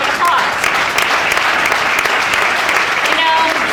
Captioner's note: audience applauding